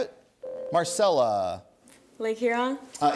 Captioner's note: ding